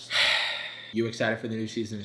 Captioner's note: sighing